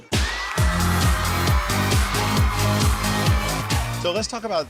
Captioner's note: crowd cheers; exciting music